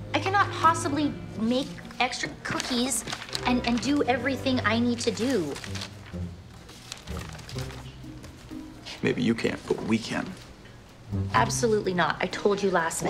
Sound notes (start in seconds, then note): 4.7 paper rustling; 5.7 light music